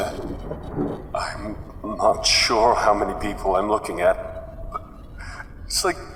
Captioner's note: audibly unsettled, choking up